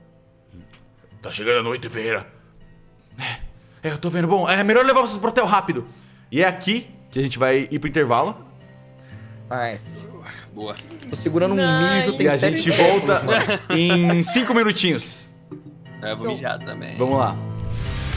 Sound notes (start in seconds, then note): 10.9 clapping hands; 12.0 laughing